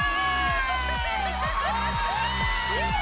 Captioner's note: cheering